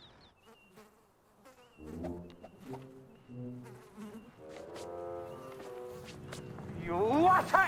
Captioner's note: fly buzzing